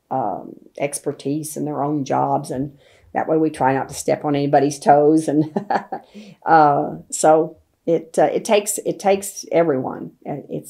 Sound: laughs

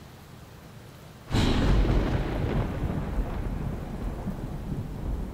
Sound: thunder booms

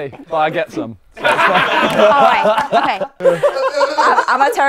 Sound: people laughing

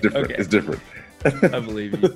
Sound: laugh

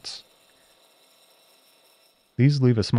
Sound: cutting machine whirring

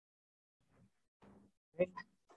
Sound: gavel bangs

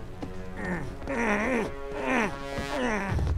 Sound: groaning

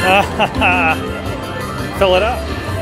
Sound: laughing

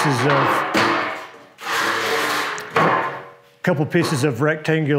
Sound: metal clanking

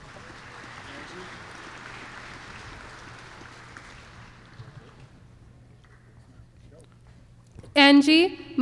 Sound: applause

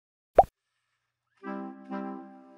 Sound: pop; sad music playing

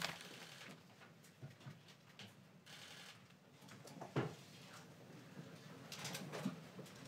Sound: cameras clicking

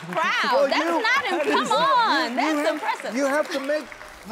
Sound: audience clapping

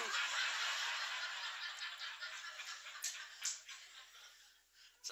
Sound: laughter

